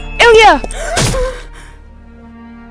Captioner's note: Iliya gasps and whimpers